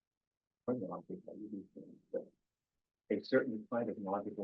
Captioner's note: presenter speaking faintly off mic